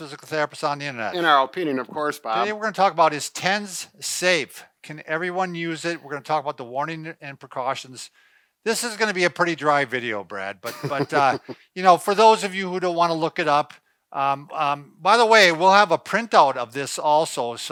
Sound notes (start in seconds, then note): 10.6 laughs